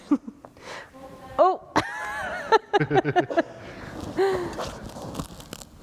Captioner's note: laughter